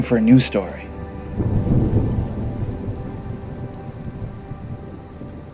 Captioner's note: thunder rumbling